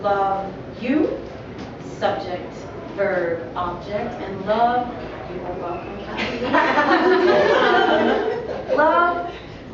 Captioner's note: laughter